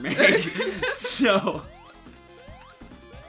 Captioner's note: both laughing